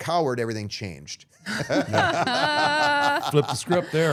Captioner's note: all laughing